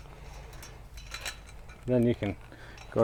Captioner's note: metals clunking